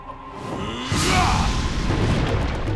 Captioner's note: grunting